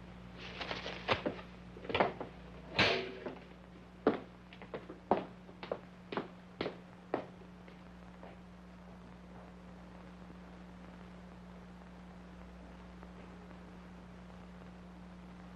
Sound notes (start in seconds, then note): 1.1 footsteps banging; 1.1 metal clanging